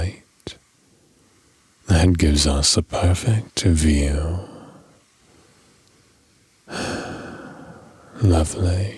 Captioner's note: sigh